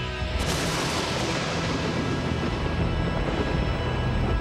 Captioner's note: lightning roaring